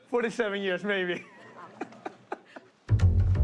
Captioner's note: laughs